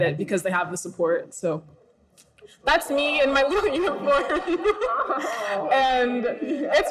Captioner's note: laughs